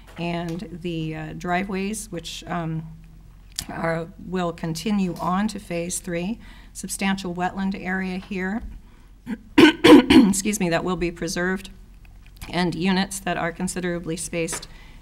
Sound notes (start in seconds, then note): 9.2 clearing throat